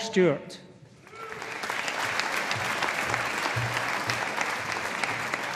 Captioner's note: audience applauding